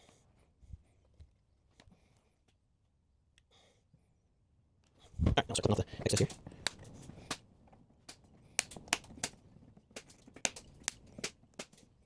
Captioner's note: silence